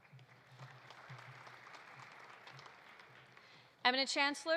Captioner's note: audience applauding